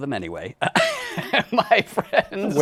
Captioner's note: laughs